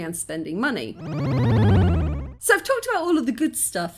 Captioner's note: game level fail sound